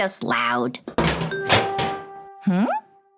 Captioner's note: trash can rattling